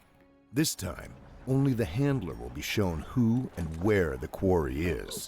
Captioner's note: voiceover